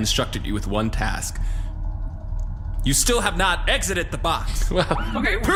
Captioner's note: audibly agitated